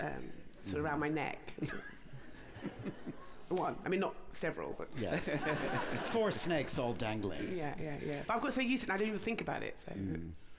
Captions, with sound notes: sort of round my neck! I mean, not several, but... (LAUGHTER) - Four snakes all dangling! - Yeah. I've got so used to it, I don't even think about it.